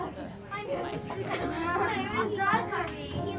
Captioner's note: chatter